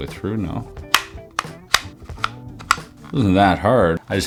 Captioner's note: buttons clicking